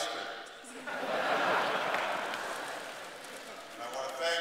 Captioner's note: laughter